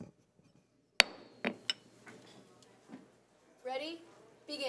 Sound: gavel banging

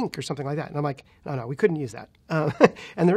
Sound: laughs

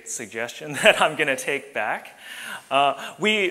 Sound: laughing

